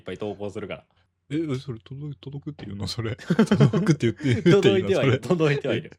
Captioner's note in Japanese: 笑い